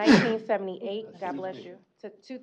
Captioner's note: sneeze